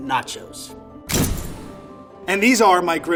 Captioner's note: slamming